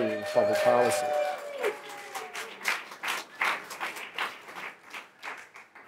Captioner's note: audience cheering and applauding